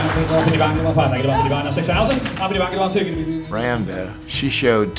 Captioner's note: crowd applauding; auctioneer speaking quickly